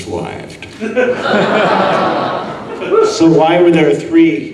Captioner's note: audience laughing